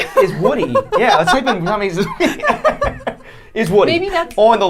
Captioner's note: laughing